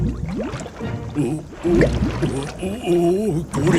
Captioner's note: groaning